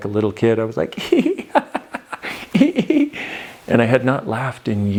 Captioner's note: laughing